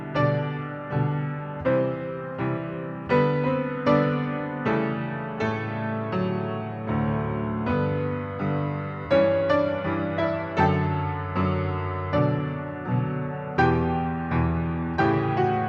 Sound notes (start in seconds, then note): none